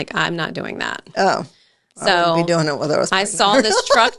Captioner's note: laughs